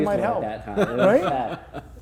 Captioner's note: laughing